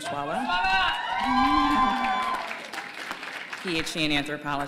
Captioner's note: cheers